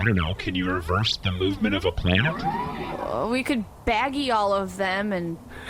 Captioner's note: hesitantly